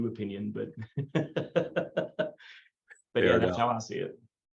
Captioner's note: laughs